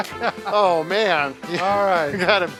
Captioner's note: laughs